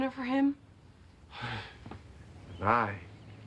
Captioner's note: sighs